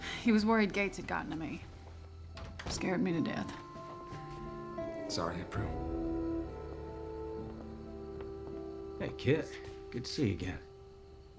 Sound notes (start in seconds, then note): 2.4 door closes